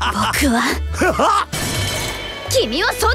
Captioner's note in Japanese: 殴る音